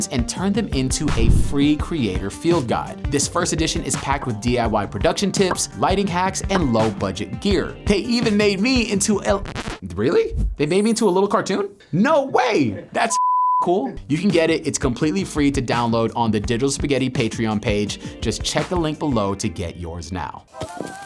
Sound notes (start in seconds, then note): 8.0 record scratches; 13.1 beep